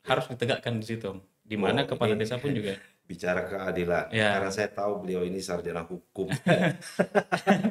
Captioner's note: laughs